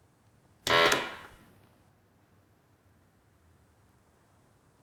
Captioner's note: machine blaring